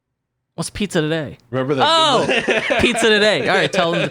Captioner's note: laughs